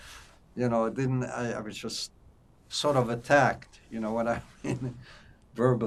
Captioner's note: laughing